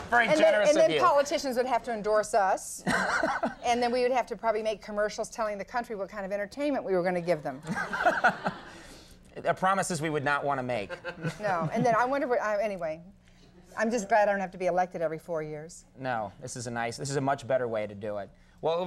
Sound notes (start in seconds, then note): 2.8 Conan laughing; 7.7 Conan laughing